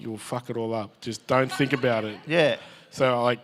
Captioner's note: audience laughs